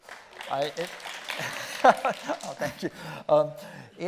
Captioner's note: audience clapping; chuckling